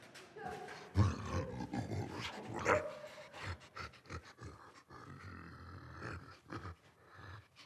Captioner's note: creature grunting